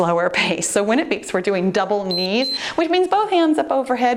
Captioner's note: timer beeps